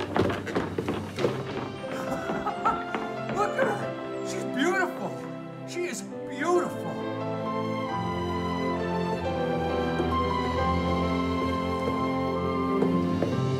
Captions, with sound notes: [Willard laughs] Look at her! She's beautiful! She is beautiful!